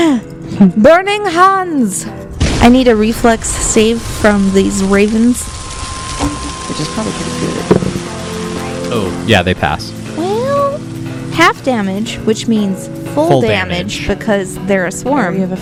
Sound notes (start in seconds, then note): 1.9 flame sounds; 7.6 die rolls